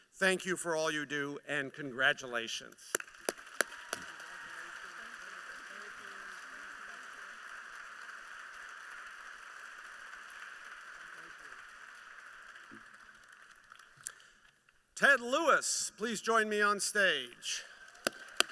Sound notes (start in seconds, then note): 2.9 applause; 17.4 applause